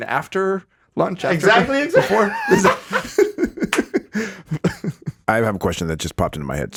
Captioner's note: laughs